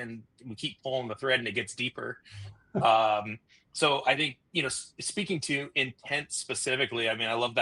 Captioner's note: chuckles